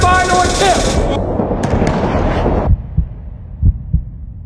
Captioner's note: heart beating; dunk sound